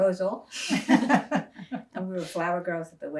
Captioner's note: laughing